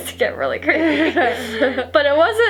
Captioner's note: laughs